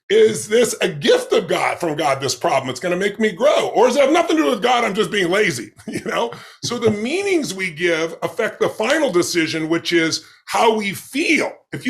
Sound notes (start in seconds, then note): 4.7 chuckles